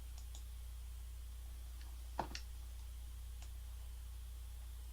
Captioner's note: mouse clicking